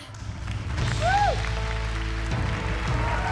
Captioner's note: cheering and applause